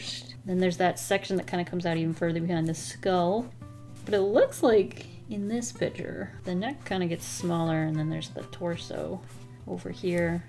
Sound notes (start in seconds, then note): none